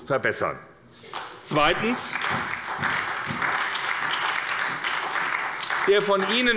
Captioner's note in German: Beifall bei der SPD